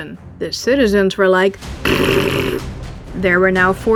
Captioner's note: raspberry